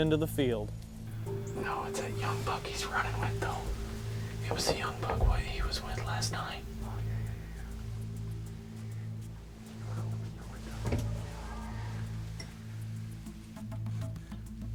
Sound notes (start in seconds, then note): 2.9 whispering